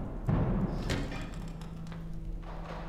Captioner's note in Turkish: Kapı açılma sesi